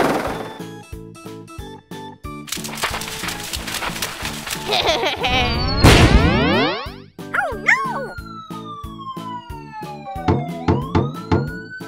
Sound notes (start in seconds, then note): 5.4 blaster shot